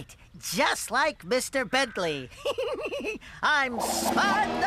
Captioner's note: giggling